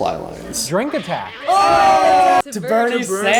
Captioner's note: cheering